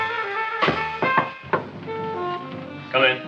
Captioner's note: knocks rhythmically